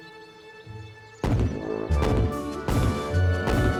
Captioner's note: heavy footsteps